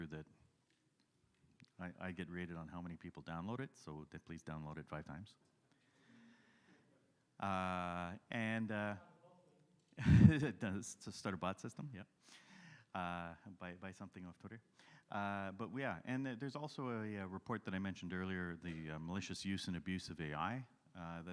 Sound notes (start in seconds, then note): 10.0 chuckles